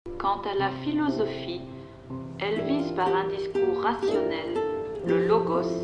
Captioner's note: French